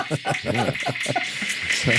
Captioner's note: laughing